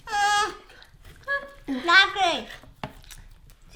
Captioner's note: mumbles